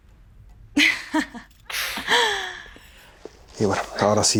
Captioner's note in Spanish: risas